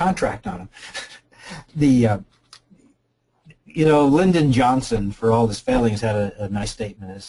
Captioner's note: laughs